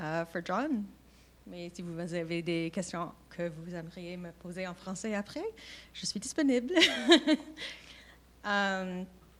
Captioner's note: speaking French